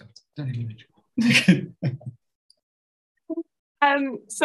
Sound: laughs

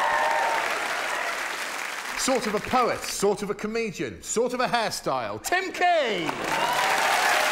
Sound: applause

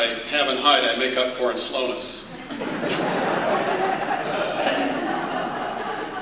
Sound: laughter

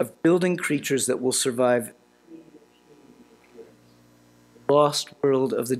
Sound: audio cuts out

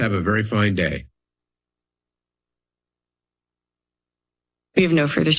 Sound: silence

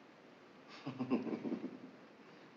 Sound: chuckling

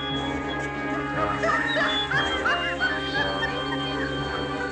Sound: cackling

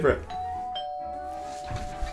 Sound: doorbell ringing; door squeaking

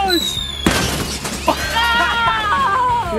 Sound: whistle whirring; pumpkin booming

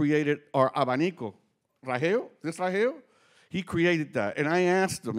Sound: speaking Spanish

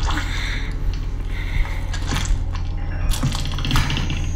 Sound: Andrew breathing

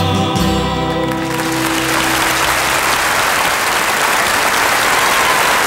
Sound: audience clapping

